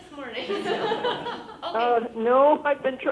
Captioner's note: group laughing